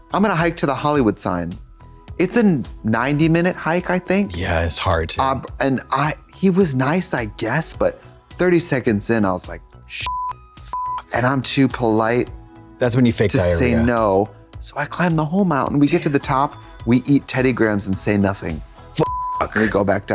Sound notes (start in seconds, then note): 10.0 beep; 19.0 beep